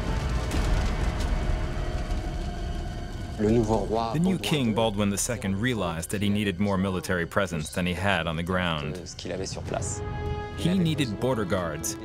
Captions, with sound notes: (Speaking French) The new king, Baldwin II, realized that he needed more military presence than he had on the ground. He needed border guards,